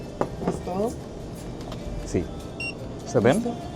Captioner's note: foreign language